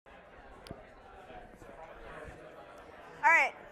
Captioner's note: audience chattering in background